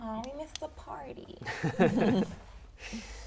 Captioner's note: laughs